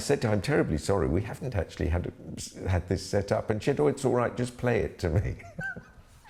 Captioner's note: laughs